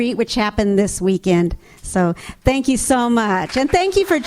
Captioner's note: audience applauds